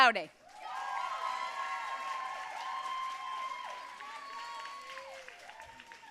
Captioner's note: audience cheering and applauding